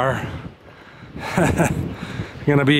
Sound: laughs

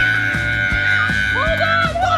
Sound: screaming

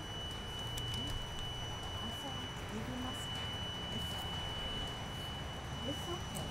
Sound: faint chatter

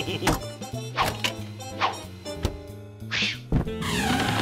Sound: none

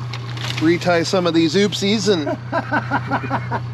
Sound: boat engine idling

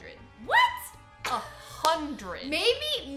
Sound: laughing

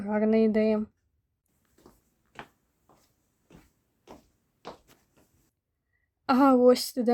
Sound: fast steps

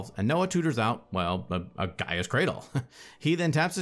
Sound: chuckles

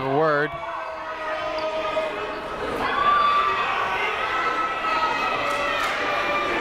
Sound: people shouting in the crowd

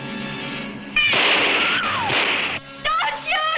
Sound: dramatic instrumental music; gun firing; screaming

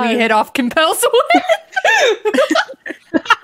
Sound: laughing

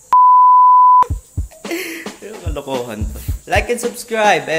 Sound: laughing

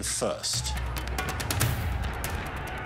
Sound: distant commotion

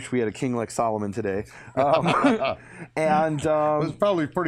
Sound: laughter

